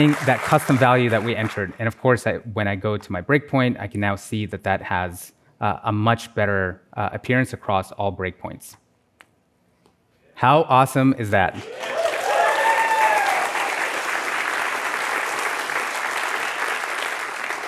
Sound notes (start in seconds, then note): 11.6 applause